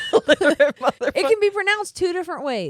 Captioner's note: laughing